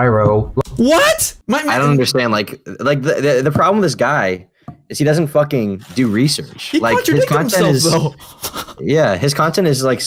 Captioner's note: laughs